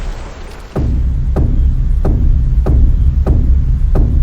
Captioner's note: footsteps thudding